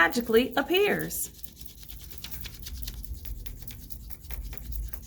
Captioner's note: crayon scratching